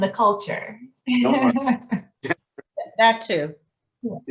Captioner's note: laughs